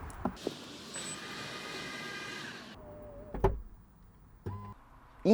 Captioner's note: whiring noises